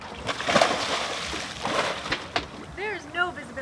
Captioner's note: water splashes